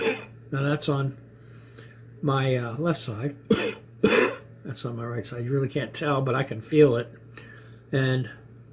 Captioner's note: cough; cough